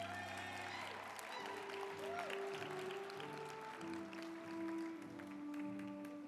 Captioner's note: group applauding; uplifting music